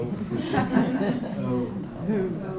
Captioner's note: chuckles